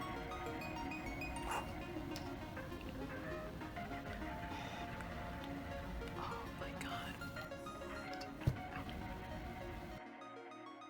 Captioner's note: even softer gasping